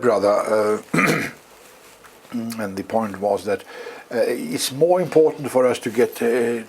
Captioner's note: cough